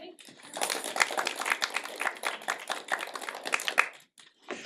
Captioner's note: applause